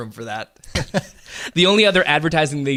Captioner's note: laughing